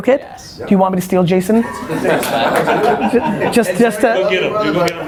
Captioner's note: all laugh